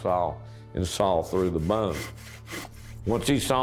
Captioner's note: saw rasping